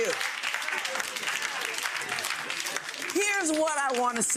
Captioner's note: audience laughs; audience claps